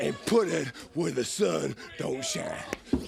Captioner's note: crowd cheering